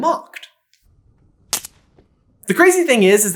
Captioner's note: snap